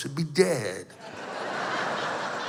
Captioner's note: laughter